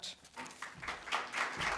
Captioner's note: applause